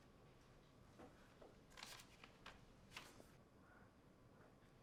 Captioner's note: paper rustling